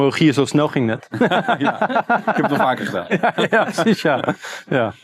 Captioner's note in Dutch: gelach